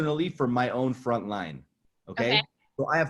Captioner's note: laughs